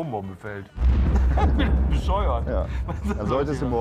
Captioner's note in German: Lachen